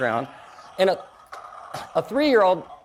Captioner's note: toy plays airplane engine sounds